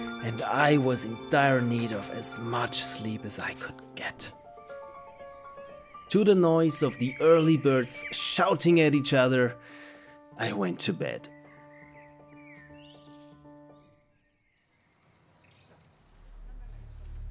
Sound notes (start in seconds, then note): 13.0 birds chirping